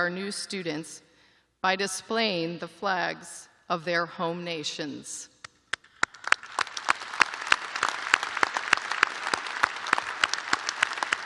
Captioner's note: applause